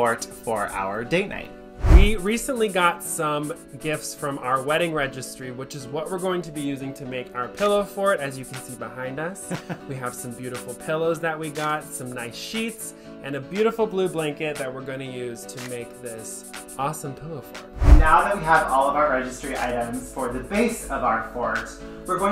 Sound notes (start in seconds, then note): 17.7 whooshing